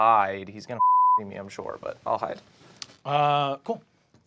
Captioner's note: beeping